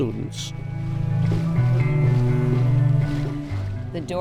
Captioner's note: water rippling